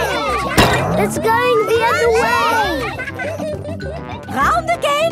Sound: crack; panting

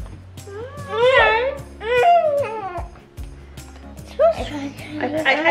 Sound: grunting

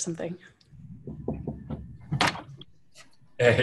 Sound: knocking, door opens

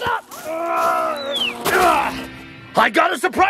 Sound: grunts

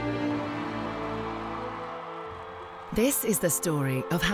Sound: people cheering

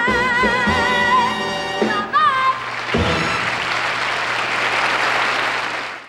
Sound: audience cheers

